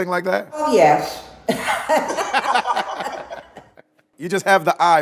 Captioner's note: laughs